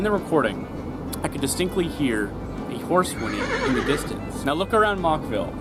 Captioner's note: horse whinny